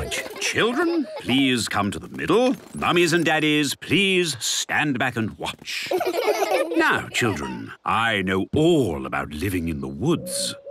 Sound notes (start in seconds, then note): 5.8 laughter